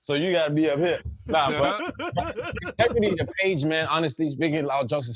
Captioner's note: laughter